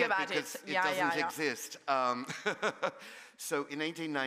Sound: laugh

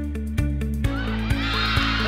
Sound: cheering

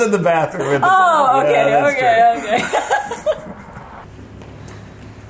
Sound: both laughing

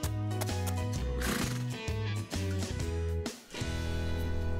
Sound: horse snorts

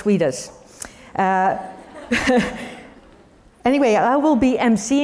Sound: laugh

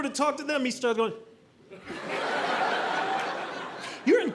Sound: audience laughing

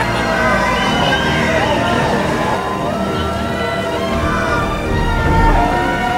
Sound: cheering from crowd

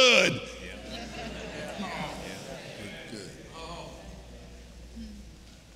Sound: congregation laughing

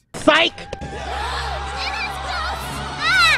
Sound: gasps

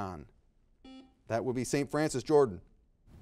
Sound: buzzer beeping

